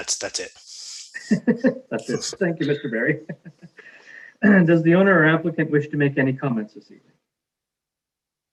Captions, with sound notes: That's it. - (laughing) Thank you, Mr. Barry. Does the owner or applicant wish to make any comments this evening?